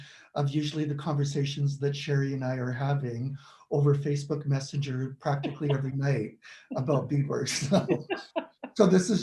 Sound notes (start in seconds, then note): 5.2 laughs; 7.4 laughs